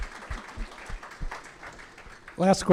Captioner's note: applause